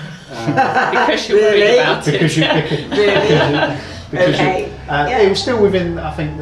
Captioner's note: laughs